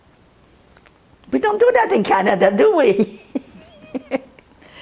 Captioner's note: laughing